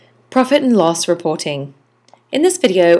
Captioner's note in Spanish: Voz en off